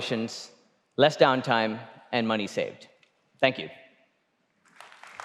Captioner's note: applause